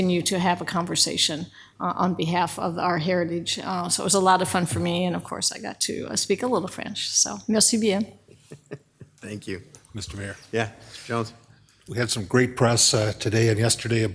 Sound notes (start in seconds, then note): 7.8 speaks in French